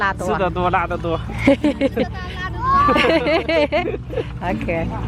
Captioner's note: hahahahaha